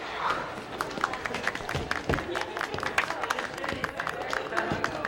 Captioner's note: light applause